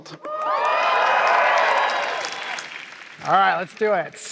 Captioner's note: cheering